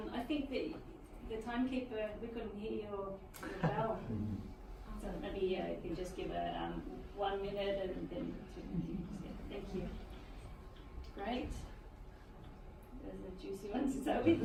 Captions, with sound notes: I think that the time keeper, we couldn't hear your bell. (laughing) So Abbey yeah, can just give a one minute and then for two yeah, thank you, great, that was a juicy one to start with.